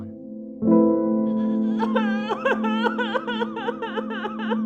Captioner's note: woman crying